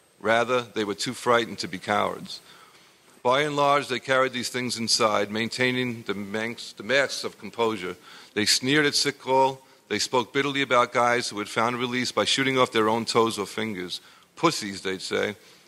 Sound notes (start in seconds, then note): none